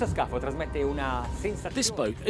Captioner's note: gentle music; speaking Italian